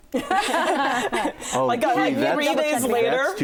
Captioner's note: laughter